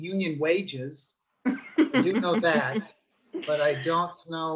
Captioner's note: laughing